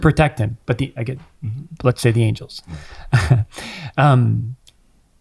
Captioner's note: chuckles